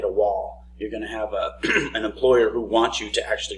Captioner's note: clears throat